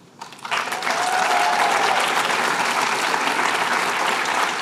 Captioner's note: applause